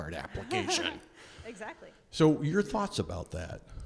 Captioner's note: laughs